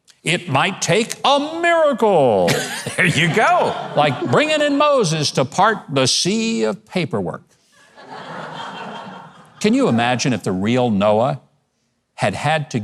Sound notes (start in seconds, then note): 2.4 laughs; 7.8 audience laughs